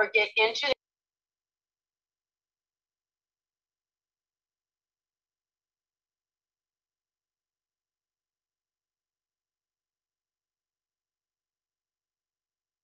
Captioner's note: silence